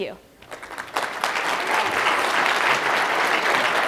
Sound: applause

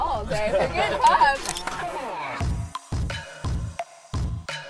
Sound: laughter; picture sound effect; hip-hop style music

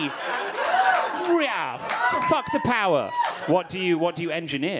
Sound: audience cheering

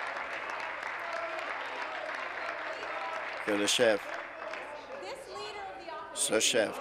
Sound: applause

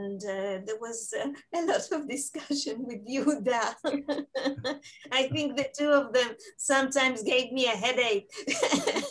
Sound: laughing

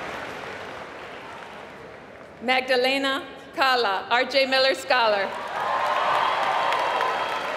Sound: applause

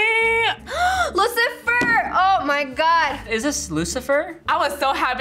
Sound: gasps

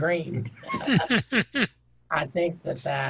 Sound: laughing

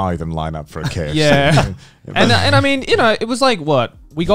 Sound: laughing

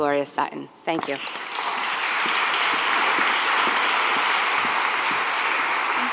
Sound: applause

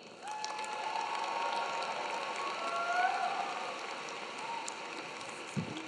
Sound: audience clapping; audience cheering

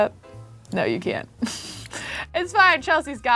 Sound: laughs

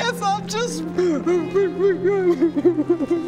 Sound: pathetic cries

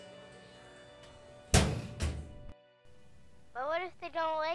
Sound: locker slams

